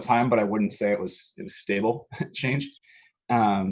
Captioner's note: laughs